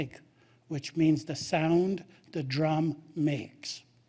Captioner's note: speaking Indigenous language